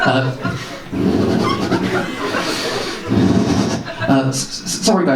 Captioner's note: breathes heavily